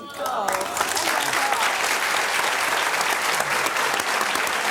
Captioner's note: audience applauds